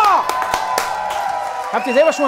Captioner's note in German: Jubel